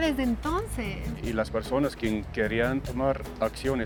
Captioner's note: speaking Spanish